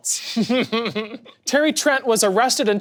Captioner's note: people laughing